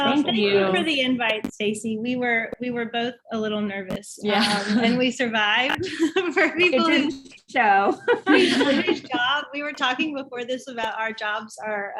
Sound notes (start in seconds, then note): 4.3 laughs; 7.8 laughs